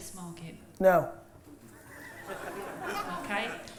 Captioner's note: laughter